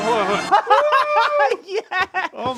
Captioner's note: laughs